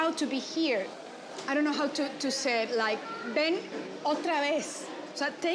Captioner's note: speaks Spanish